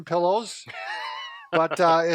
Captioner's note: laughs